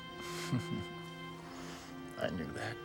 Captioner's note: Mark chuckles